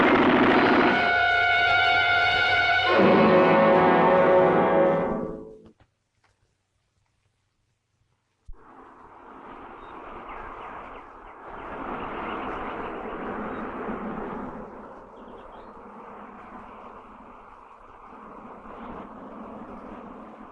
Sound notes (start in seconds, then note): 0.0 guns blasting; 0.1 intense orchestral music; 8.4 traffic whirring; 9.6 birds chirping